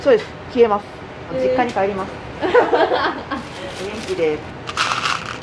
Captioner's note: laughter